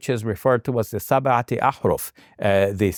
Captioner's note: speaking in Arabic